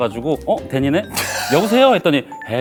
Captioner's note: excitedly answering the phone